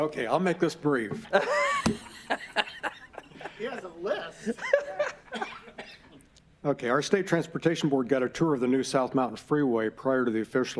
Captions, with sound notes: TO SAY NOTHING AT THIS POINT, WE WILL KEEP IT GOING. >> [ LAUGHTER ] GREAT! JACK, THE PRESSURE IS ON YOU. >> OKAY, I WILL MAKE THIS BRIEF. [ LAUGHTER ]